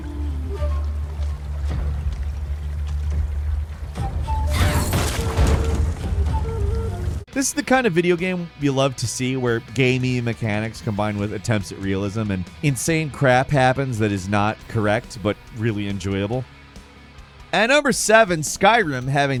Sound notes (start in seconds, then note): 0.0 dramatic music; 4.0 wood thuds loudly